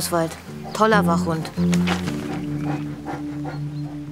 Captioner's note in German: Oswald hechelt